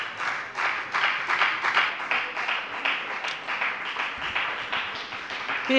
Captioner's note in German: Beifall bei der FDP